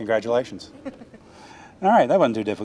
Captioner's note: student chuckling